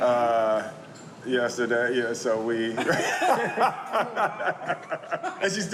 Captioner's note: laughing